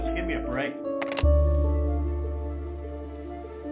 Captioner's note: telephone hangs up